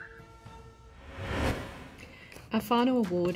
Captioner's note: air whooshing